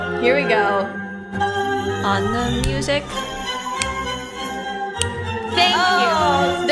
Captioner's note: snaps to music